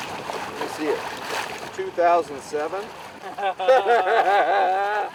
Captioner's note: they laugh